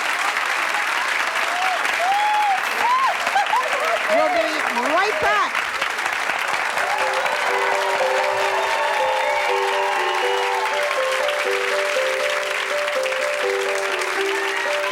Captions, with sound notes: - Oh my God! - We'll be right back. (cheering) (light music)